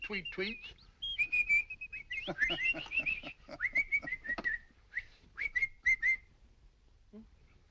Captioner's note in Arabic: إصدار أصوات تغريدة